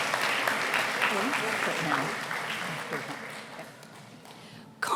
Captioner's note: applause